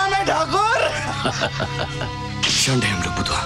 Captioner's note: Laughs